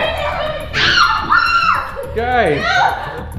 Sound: kids screaming

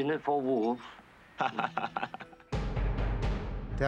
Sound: Schwarzenegger chuckles

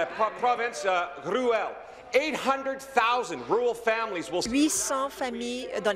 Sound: speaking in French

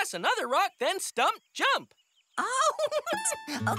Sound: laughs

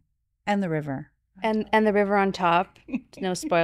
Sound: chuckles

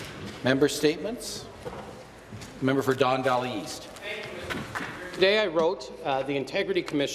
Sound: some Applause

